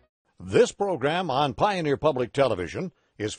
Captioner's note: voiceover